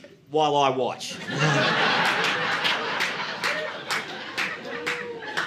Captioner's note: audience laughing